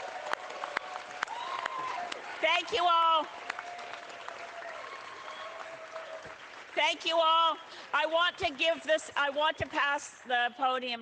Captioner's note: cheering